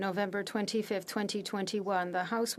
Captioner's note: speaking French